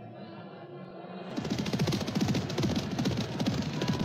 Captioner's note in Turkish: atlarin koşma sesi̇